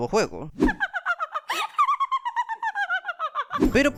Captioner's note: laughs